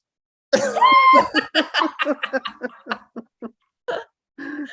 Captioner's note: all Uteri laughing